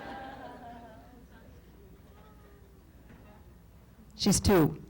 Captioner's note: laughter